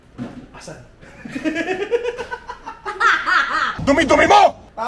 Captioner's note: laughter